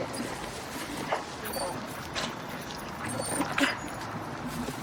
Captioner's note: dog whining